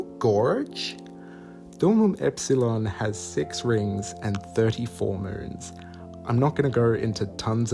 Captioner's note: bad USA accent; normal Australian accent, trying not to laugh